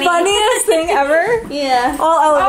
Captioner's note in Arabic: يضحك